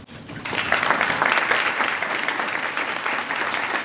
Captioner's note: applause